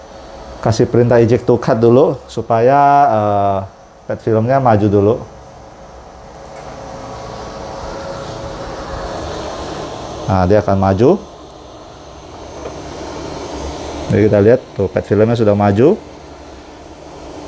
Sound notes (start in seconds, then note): 5.9 printer machine noise; 12.4 printer cover noise